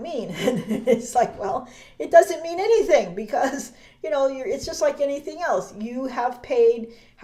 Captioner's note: laughs